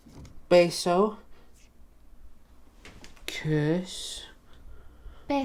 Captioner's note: speaks in foreign language; speaking in foreign language